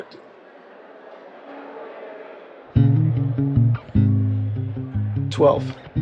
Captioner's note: people chattering distantly; experimental jazz music